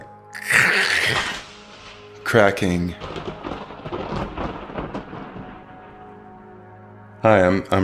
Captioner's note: makes cracking noise